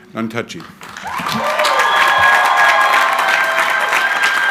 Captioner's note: crowd cheering